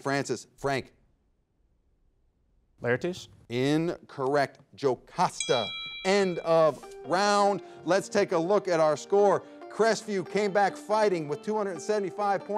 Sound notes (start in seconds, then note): 5.3 bell rings; 7.6 upbeat music